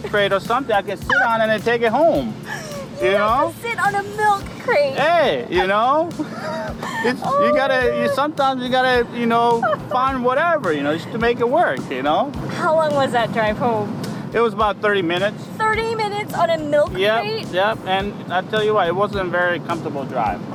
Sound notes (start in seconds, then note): 6.2 laughs